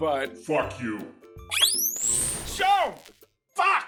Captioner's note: electroshock and screams of pain